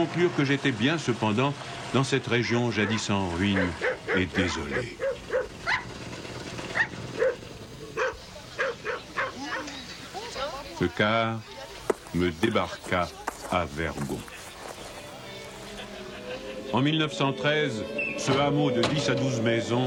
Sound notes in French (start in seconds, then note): 7.9 Jappements